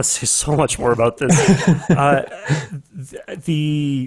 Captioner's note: laughs